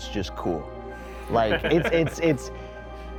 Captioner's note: laughter